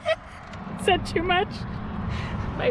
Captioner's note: laughing